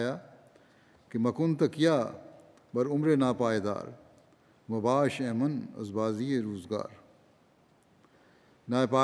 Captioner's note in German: „Persisch